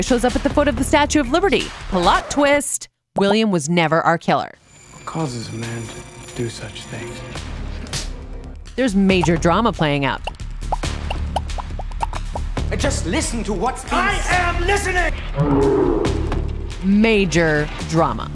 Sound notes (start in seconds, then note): 15.3 roar